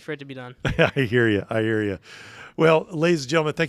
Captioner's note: laughing